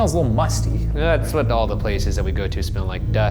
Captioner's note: scoffs